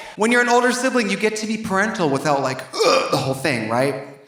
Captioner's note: groans